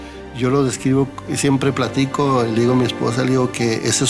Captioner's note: man speaking Spanish